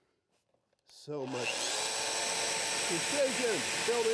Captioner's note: domino cutter cutting